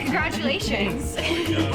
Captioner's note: laughs